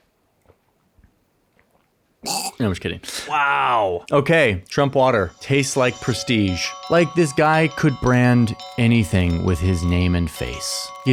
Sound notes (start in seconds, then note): 2.2 imitates choking